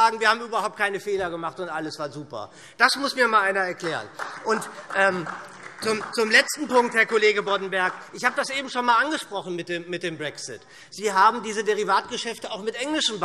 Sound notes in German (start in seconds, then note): 5.2 Beifall SPD